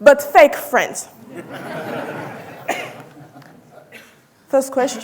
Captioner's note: audience laughing